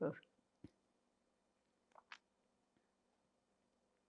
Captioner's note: pauses 6 seconds